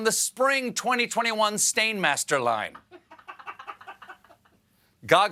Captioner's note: laughter